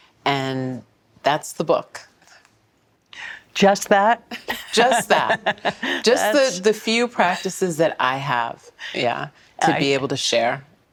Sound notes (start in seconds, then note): 4.4 laughing